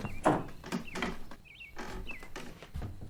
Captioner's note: door closing